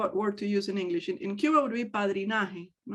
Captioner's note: speaks in native language